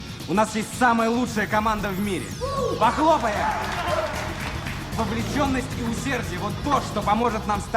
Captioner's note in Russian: аплодисменты